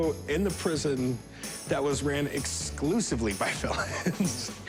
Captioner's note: laughs